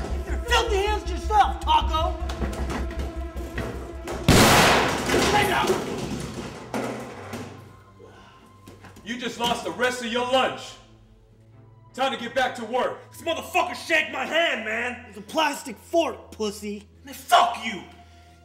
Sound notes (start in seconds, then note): 4.2 gun firing